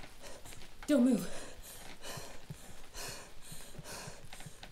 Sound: breathes heavily

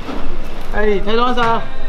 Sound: speaking Chinese

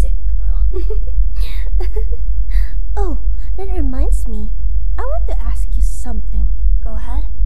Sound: giggle

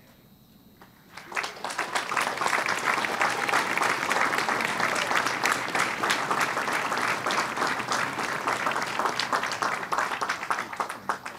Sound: applause

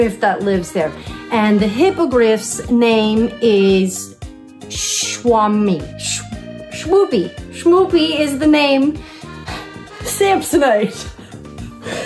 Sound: laughs

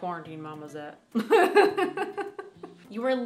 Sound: laughs

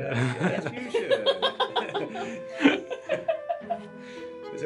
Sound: laughter

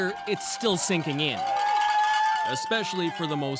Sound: cheers and Applause

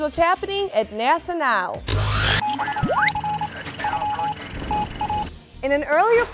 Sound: sound Effects

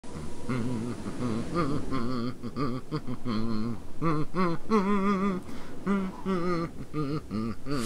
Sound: Santa humming "Auld Lang Syne"

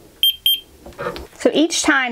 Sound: thermometer beeping

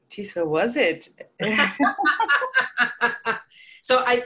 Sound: laughs

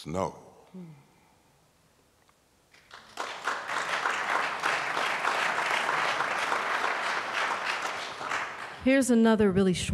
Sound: applause

